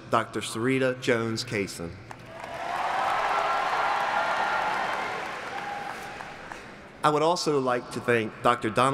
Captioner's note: applauding